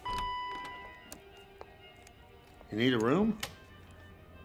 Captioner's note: door bell dinging